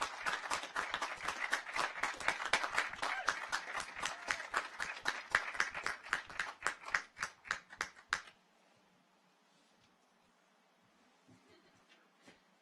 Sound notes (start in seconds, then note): 3.3 audience applauds; 3.3 audience cheers